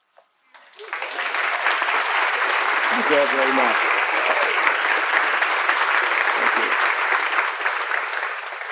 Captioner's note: applause